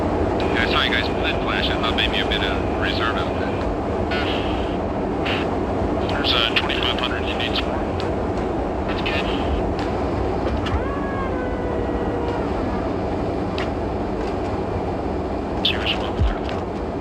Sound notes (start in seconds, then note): 11.0 retracting sound